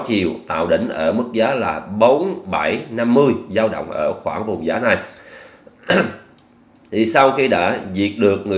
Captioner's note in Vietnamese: hắng giọng